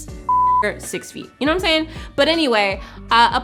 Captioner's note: beep